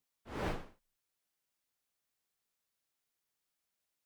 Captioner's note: air whooshing